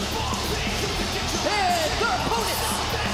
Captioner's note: crowd cheering